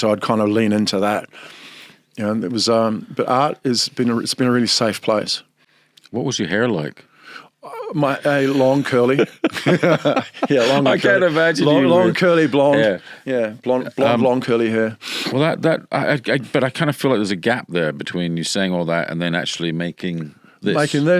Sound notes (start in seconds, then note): 10.2 both laughing